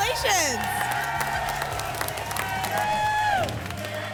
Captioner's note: applause and cheering